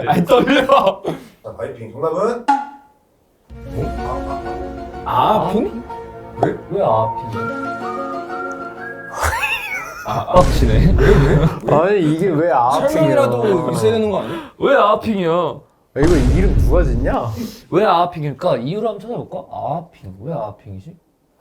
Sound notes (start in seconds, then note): 9.1 laughs in disbelief